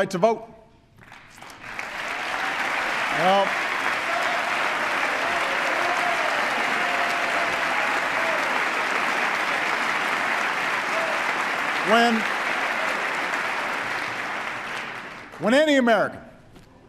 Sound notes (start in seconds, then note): 10.4 applause